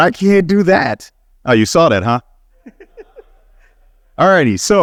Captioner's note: laughing